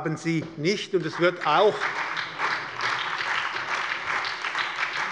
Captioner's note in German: Heiterkeit und Beifall bei der SPD